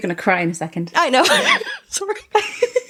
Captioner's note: laughs